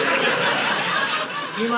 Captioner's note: audience laughing